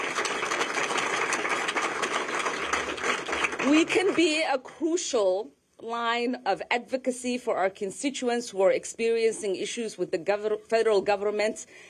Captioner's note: applause